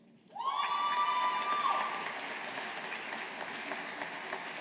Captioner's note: audience applauding